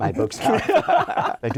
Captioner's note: laughter